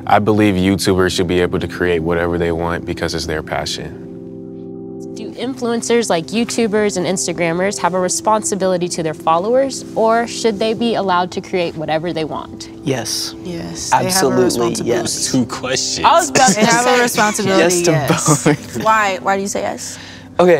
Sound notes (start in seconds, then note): 16.2 laughs